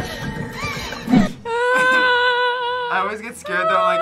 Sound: whimpers

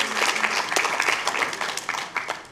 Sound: applause

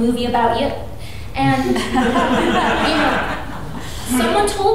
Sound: audience laughing

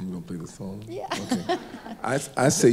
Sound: laughs

